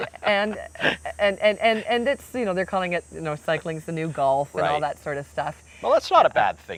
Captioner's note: laughing